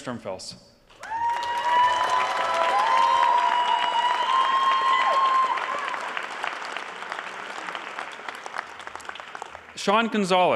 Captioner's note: applause